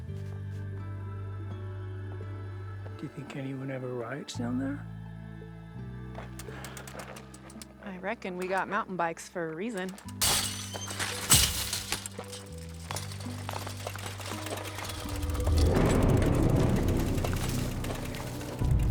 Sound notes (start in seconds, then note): 0.2 gentle music; 10.6 fence clatters; 16.0 intense music